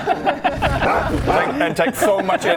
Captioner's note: rawr!